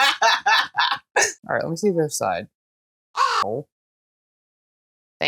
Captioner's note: caw